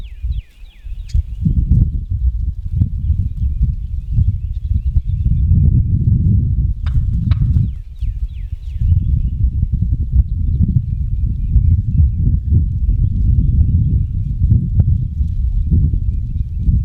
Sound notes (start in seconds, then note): 6.8 makes two short clucks with his turkey call; 13.3 wind continues to blow